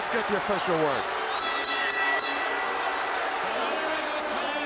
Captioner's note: bell ringing